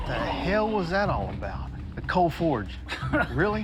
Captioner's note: laughs